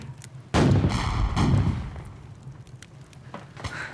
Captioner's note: cannon fire